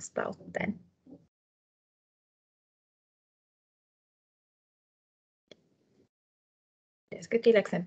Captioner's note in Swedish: Tystnad